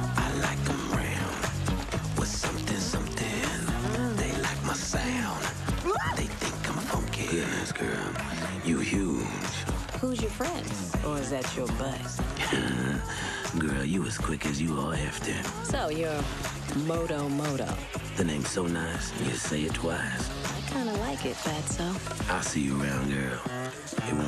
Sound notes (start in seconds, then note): 5.9 female hippo yelling; 12.4 Moto Moto chuckling nervously